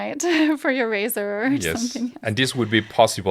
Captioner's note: laughs